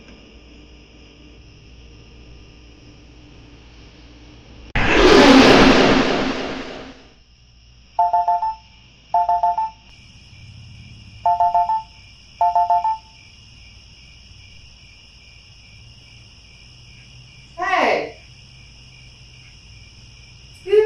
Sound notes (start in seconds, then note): 0.0 scary music, crickets; 4.8 jump scare; 7.9 crickets, phone rings; 13.4 crickets